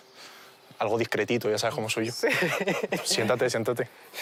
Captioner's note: laughs